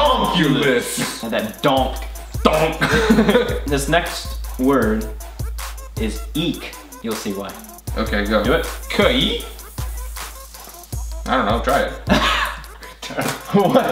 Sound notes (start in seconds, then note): 2.5 laughs; 12.0 laughs